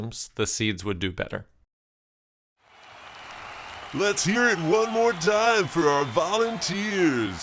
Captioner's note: applause